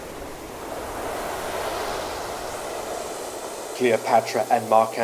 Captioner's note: waves crashing